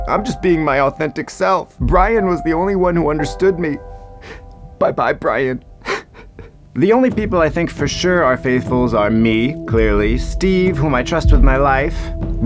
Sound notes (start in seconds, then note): 6.1 weeping